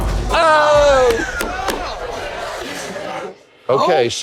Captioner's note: chatter